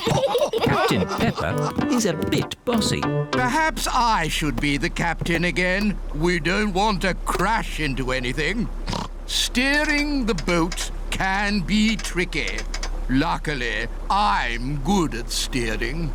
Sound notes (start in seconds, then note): 8.9 oinks